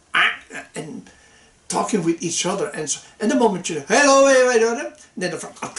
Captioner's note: frog sound